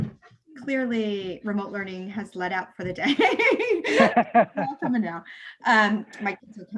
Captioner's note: chuckles